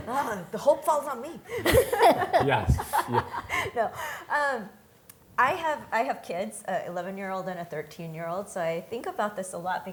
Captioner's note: laughing